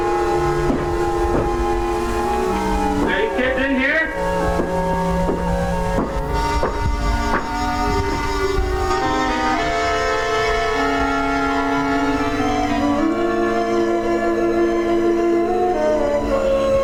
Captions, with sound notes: (dramatic music) Are you kids in here? (footsteps tapping) (dramatic music)